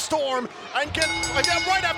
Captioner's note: bell dings